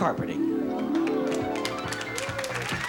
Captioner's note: audience cheers